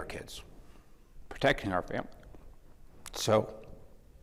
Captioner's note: voice breaking